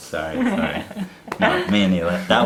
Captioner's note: laughs